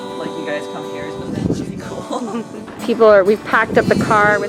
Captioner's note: laughs